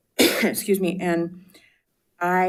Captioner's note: clears her throat